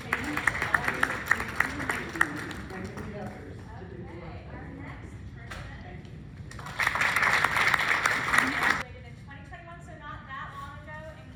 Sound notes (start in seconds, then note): 0.0 clapping; 6.5 clapping